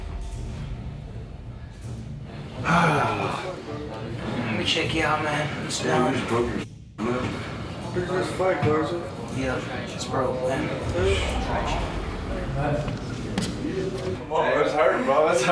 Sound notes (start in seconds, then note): 2.6 sighs heavily; 10.8 scoffs